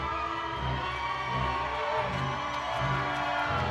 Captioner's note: audience cheering